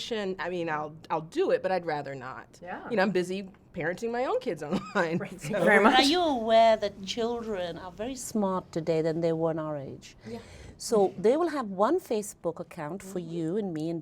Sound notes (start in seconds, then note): 4.7 chuckling